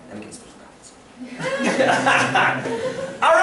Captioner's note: laughter